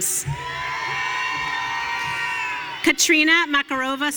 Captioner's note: audience cheering